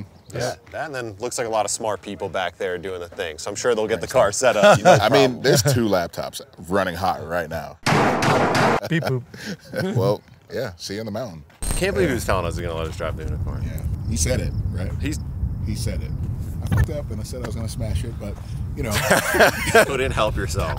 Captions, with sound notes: Yeah, that then looks like a lot of smart people back there doing the thing. So, I'm sure they'll get the car set up. I mean, there's two laptops running hot right now. [Pounding] Well, yeah, see you on the mountain. I can't believe he was telling us he's going to let us drive the Hoonicorn. Yeah, he said it, right? He said it. I ****ed up and I said I was going to smash it, but -- You couldn't help yourself.